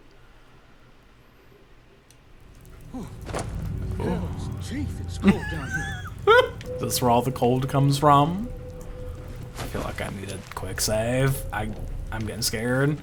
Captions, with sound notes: Ooh. (laughing) This is where all the cold comes from. I feel like I needed quick save. I, I'm getting scared.